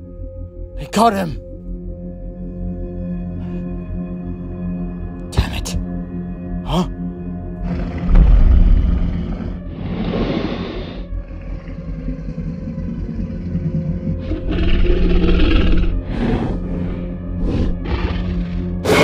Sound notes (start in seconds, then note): 1.9 suspenseful music; 8.0 T-Rex stomping; 10.2 T-Rex growling; 11.2 intense music